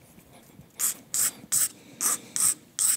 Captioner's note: scratchy grinding